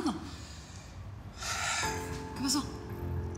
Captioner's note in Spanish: suspiros